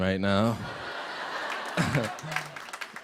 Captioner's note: laughter